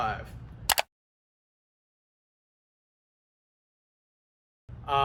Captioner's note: switch clicking